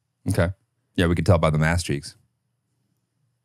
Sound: laughs

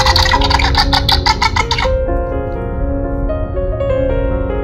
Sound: Jurassic World Primal Pal Blue sounds

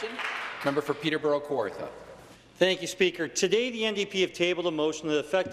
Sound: applause

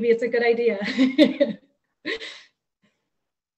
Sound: laughs

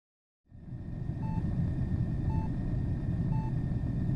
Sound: heartbeats

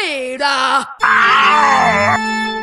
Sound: sad oscar noises

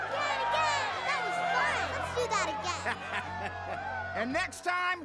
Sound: Po laughs

